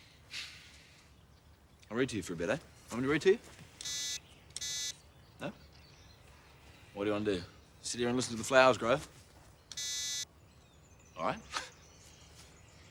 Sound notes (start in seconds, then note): 3.8 beeping; 9.7 beeps